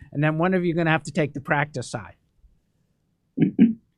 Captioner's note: laughs